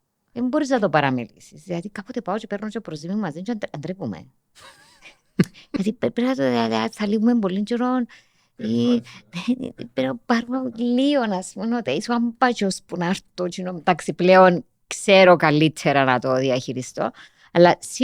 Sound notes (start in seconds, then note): 4.6 he laughs